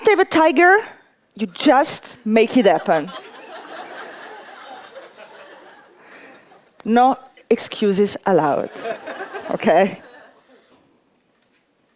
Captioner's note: laughter